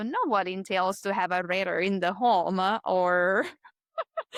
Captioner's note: laughs